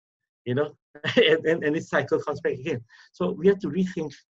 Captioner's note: laughs